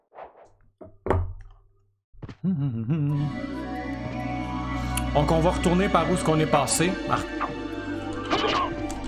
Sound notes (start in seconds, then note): 2.4 hums merrily